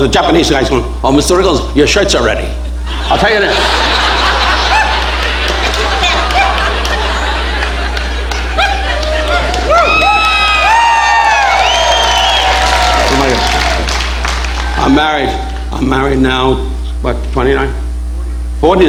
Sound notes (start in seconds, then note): 2.6 audience laughing; 9.3 audience cheering